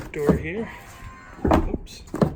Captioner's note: motor whirring